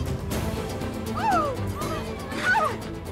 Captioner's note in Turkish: Müzik - Gerilim; Çığlık sesleri